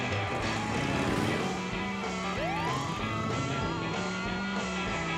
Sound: siren

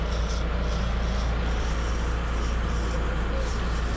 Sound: boat engine running; reel cranking; background chatter

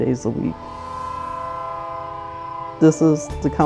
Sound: train whistle blowing

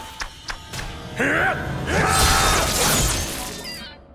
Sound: grunting

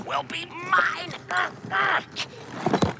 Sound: grunts

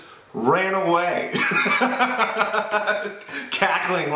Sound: laughter

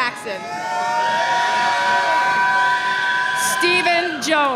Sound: audience cheering

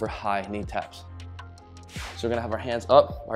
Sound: whooshing sound

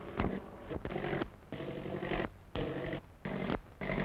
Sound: engine sputtering

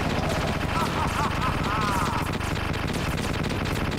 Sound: Liquid Sanke Laughing

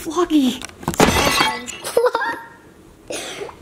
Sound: shattering glass sound effect; laughs

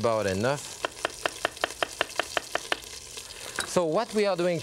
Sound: knife thudding

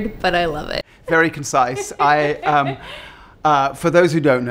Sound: laughs

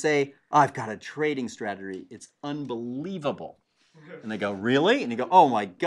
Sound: laugh

